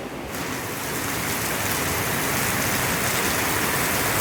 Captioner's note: heavy rain